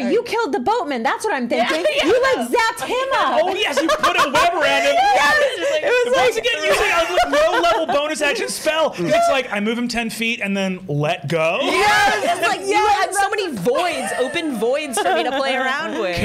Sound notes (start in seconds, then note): 6.6 laughter drowns out Brennan; 13.9 raucous laughter